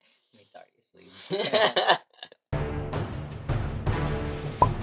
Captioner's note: laughing; dramatic music playing